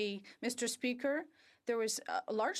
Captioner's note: speaking French